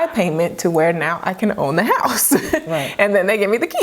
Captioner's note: chuckles